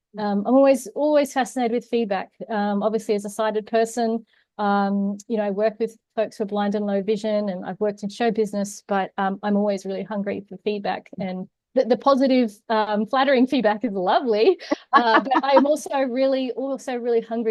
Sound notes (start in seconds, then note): 14.6 laughs